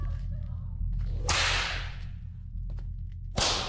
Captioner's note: crack of whip